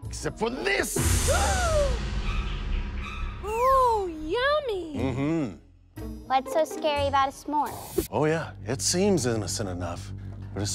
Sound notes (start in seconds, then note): 1.3 girls gasp